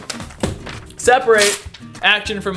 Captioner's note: rips paper